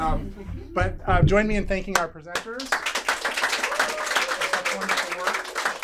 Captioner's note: applause